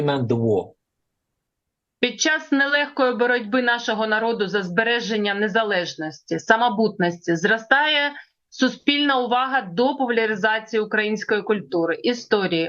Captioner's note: foreign language